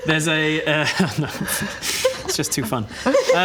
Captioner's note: impish giggle